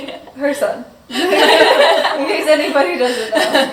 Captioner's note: all laughing